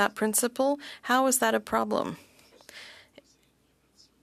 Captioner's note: speaking French